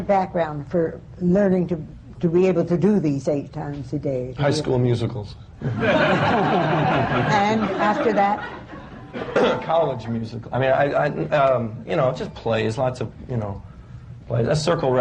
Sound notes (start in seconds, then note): 5.6 laughter